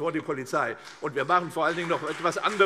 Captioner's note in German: Beifall CDU und BÜNDNIS 90/DIE GRÜNEN